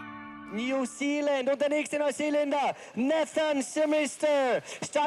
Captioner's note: speaks german